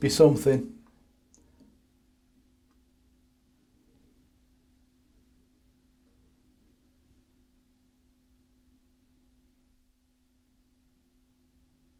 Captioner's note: silence